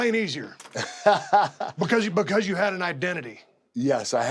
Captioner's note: laugh